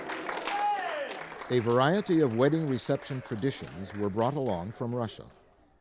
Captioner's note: applause